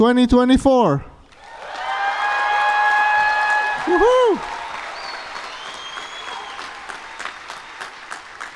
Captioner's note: applause